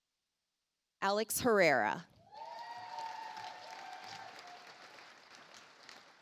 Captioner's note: audience applauds